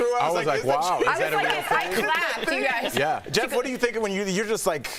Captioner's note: laughter